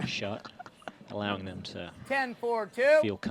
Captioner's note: laughs